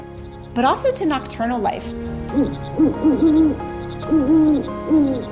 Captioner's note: owl, crickets